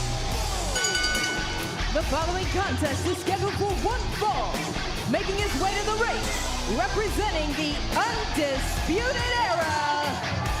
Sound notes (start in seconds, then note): 0.7 bell ringing